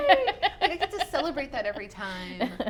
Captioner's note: laughs